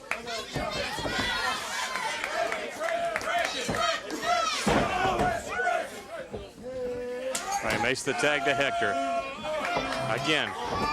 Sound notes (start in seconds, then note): 0.0 crowd chatter